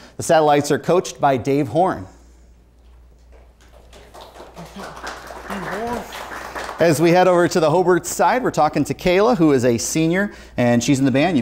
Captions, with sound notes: The Satellites are coached by Dave Horn. (applause) As we head over to the Hobart side, we're talking to Kayla who is a senior, and she's in the band.